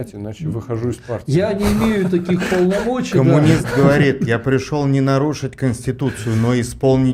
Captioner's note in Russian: смех